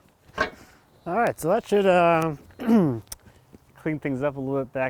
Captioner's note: clears throat